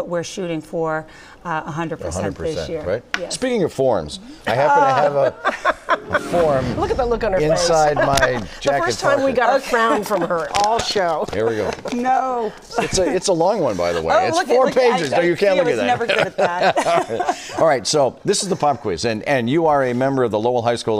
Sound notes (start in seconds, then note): 7.5 laughter